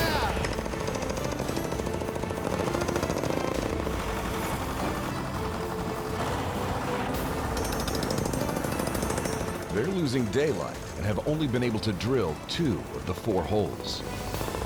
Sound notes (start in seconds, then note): 2.3 drilling